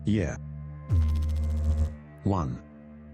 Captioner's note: electrical noise